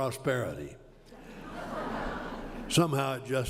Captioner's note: laughter